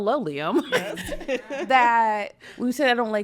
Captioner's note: laughing